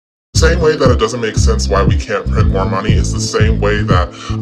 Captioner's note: voice pitched down